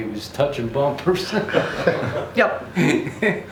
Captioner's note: group chuckling